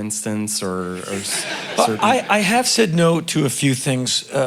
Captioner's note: crowd laughing